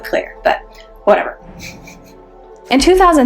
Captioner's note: laughs